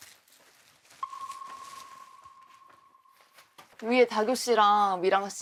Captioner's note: heavy silence flows between the two people